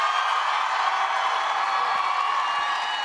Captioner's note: cheers